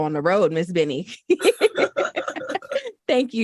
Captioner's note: laughter